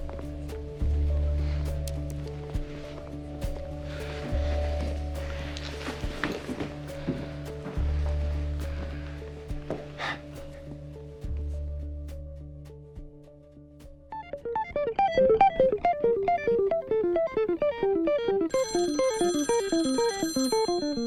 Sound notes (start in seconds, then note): 9.7 sighs; 14.1 rapid guitar music; 18.5 phone rings